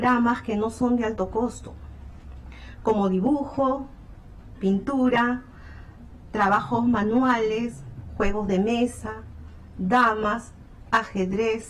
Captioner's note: speaking spanish